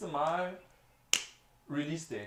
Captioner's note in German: klatsch